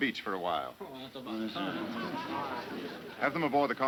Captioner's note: men grumbling